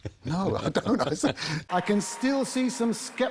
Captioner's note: laughs